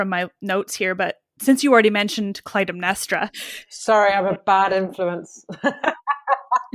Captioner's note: laughs